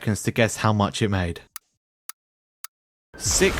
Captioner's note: ticking